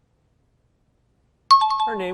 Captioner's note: timer bell rings